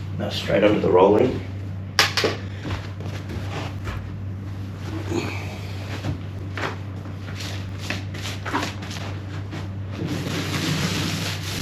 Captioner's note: paint roller sound